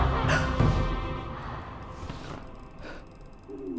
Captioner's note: Claire screams; Rachel gasps